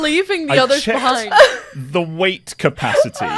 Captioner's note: laughs